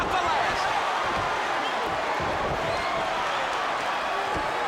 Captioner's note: crowd cheers